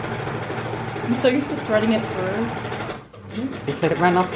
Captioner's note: machine noise